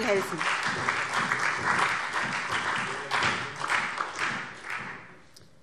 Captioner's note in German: Beifall SPD, CDU, BÜNDNIS 90/DIE GRÜNEN und vereinzelt Freie Demokraten